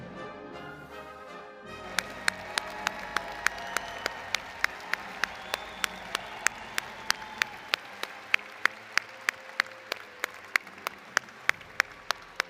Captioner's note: applause & Cheering